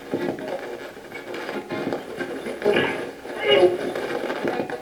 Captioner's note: radio channel changing